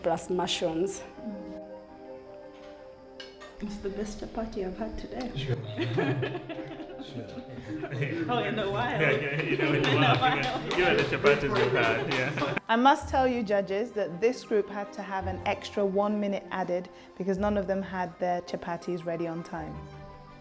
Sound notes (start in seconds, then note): 5.5 laughter